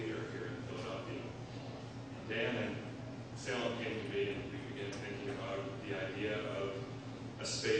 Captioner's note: none